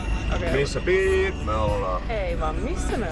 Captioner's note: beep